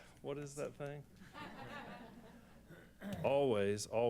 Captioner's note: laughter